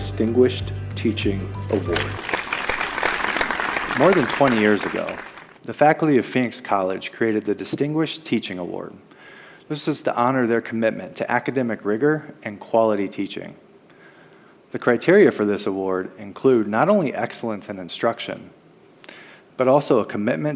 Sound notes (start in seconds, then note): 1.8 applause